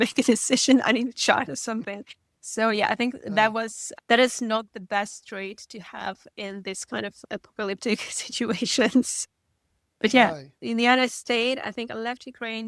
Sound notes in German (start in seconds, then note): 10.2 lacht